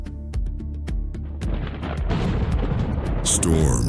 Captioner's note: thunder